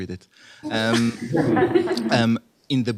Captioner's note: laughter